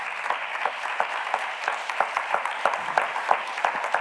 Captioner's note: audience clapping